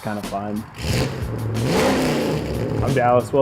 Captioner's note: engine revving